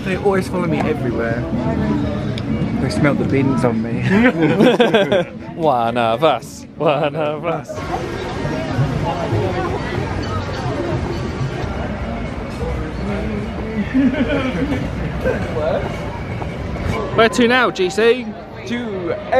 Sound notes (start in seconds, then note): 4.0 group laughing; 8.8 guests chattering; 8.8 light music